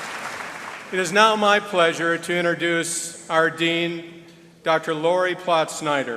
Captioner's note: applause